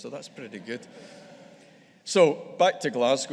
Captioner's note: audience laughing